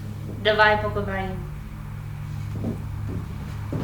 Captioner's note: speaks Russian